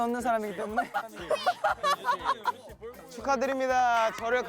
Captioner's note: laughing